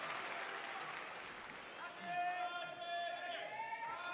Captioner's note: cheers and applause